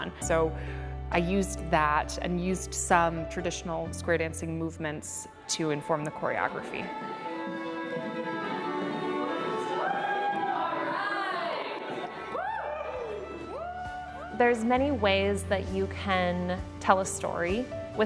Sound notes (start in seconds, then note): 8.2 country western music; 12.7 people cheering